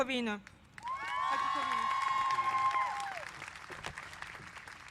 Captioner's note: applause